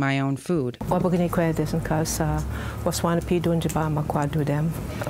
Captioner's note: speaking foreign language